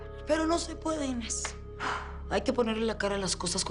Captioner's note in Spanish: Suspiros